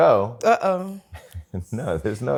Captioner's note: laughs